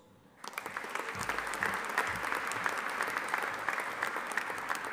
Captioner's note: audience applauding